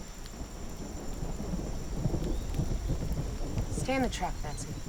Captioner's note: thunder rumbles